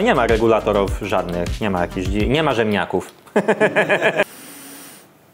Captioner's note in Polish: śmiech